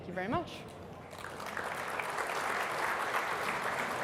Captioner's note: applause